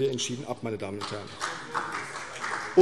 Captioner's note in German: Vereinzelter Beifall CDU